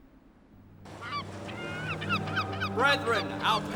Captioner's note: birds cawing